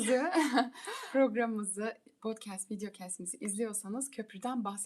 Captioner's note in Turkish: kahkaha